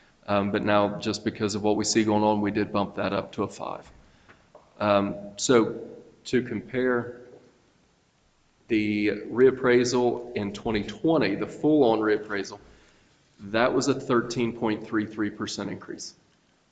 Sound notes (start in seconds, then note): none